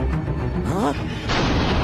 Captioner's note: gasps